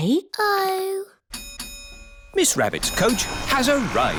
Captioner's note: coach bell dings